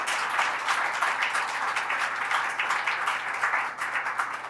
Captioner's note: applause